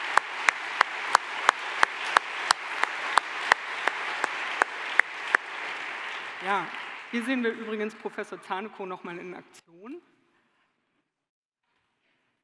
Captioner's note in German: Beifall